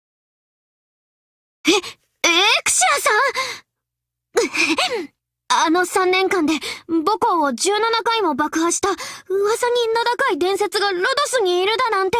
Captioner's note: cough